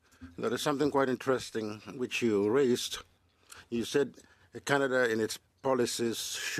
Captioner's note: speaking French